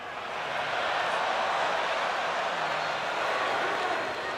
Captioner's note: crowd cheering